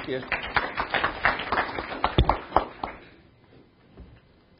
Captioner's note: audience applauding